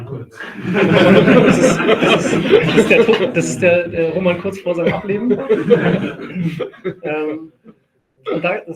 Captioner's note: laugh